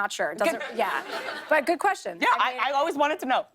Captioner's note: laughter